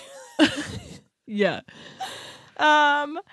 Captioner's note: laughs